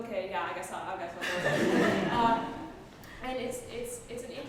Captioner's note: laughter